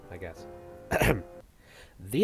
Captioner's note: ahem